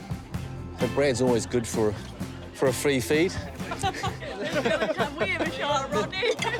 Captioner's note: laughter